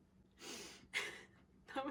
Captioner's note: laughs